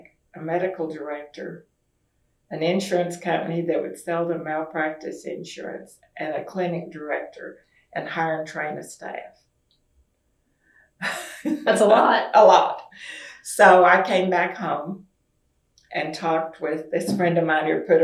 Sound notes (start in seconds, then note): 9.7 laughs